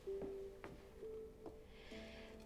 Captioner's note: takes a breath